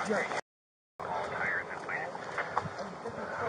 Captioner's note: radio chatter